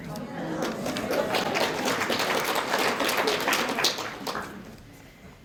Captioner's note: applause